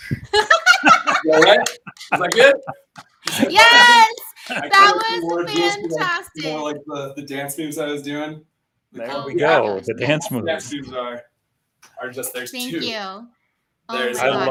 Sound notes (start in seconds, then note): 0.1 laughter; 2.9 clapping